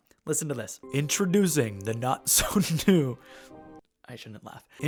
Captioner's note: laughs